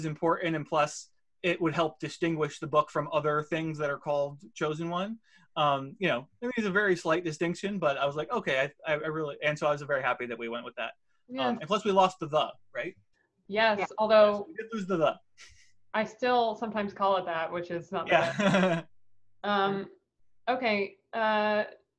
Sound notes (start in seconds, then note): 15.5 chuckles; 18.0 laughing